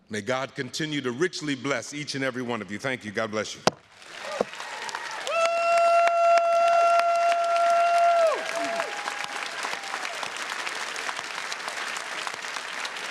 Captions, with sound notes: May God continue to richly bless each and every one of you. Thank you. God bless you. (audience cheering) (audience applauding)